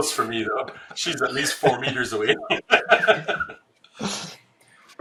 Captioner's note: laughs